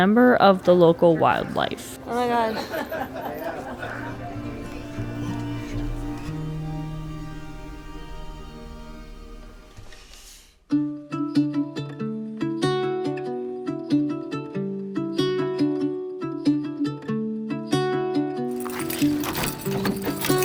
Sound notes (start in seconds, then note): 2.0 laughing